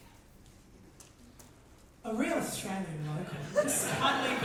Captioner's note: audience laughter